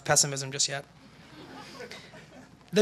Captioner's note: laughter